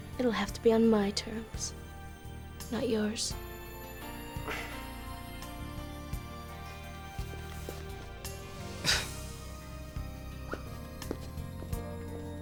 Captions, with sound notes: it'll have to be on my terms, not yours. (scoffing)